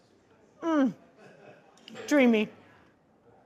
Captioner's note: people chattering